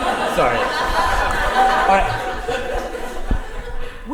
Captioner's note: audience laughter can be heard